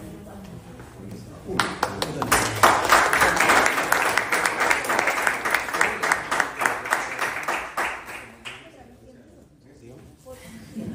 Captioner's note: applause